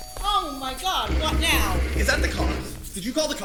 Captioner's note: doorbell. Banging